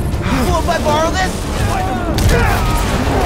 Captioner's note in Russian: Крик